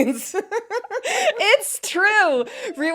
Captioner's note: both laughing